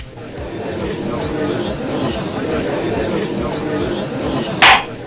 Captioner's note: gallery chattering; gavel slams!